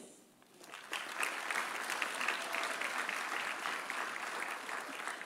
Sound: audience applauding

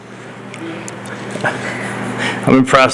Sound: laughter

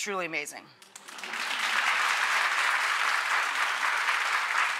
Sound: applause

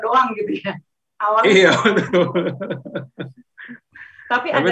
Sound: laughing

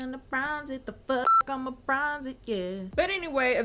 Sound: beep

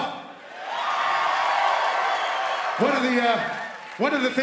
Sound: cheering

